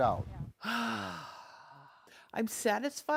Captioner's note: sighs